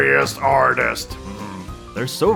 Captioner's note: delightful noises